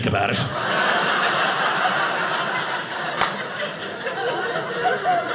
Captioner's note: audience laughing